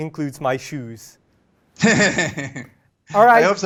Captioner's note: laughs